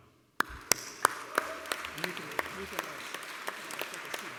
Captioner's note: applause